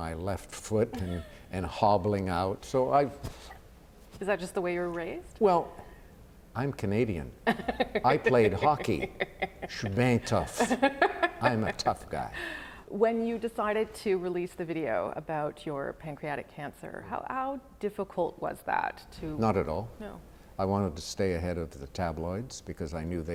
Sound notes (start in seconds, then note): 7.4 laughter